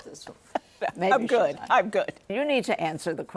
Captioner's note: laughs